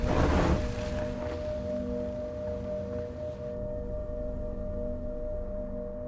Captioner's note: car skids to stop